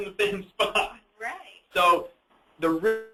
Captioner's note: laughs